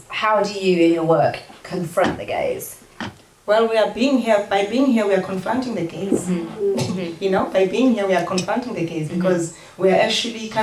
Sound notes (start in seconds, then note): none